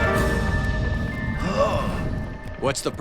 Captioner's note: gasping